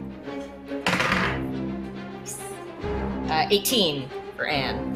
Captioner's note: dice clattering